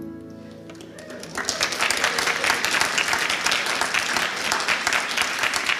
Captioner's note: applause